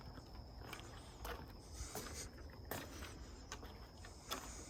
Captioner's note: footsteps tapping